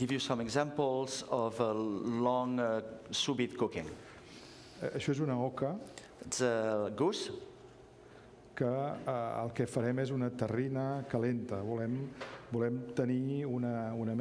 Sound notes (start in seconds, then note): 5.4 speaking catalan; 12.1 speaking catalan